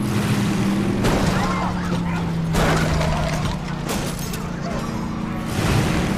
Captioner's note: windshield shattering; bumpers thudding; Nikita screaming